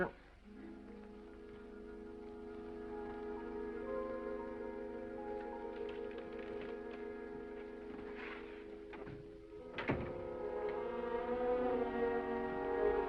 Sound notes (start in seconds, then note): 0.3 gentle music; 9.6 door latches; 10.3 gentle music